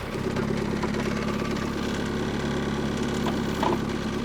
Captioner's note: skid-steer idling